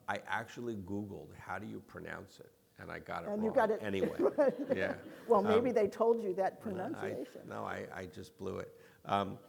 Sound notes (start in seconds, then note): 3.4 laughs; 4.0 audience laughing